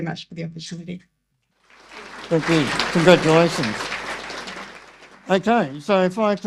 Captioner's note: audience applause